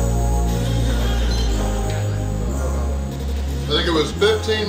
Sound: timer beeping

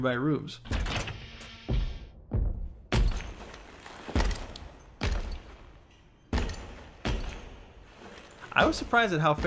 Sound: distant, heavy footsteps

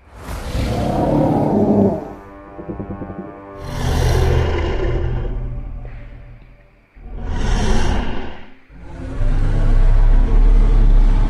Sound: ampelosaurus Growls

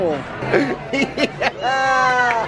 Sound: laughs

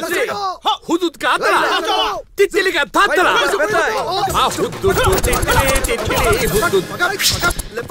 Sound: funny screams and blabbering

